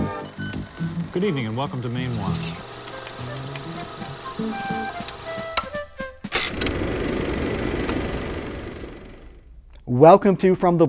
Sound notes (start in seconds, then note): 2.7 upbeat music; 4.1 projector clicking